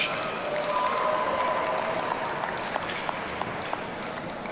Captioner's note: audience cheering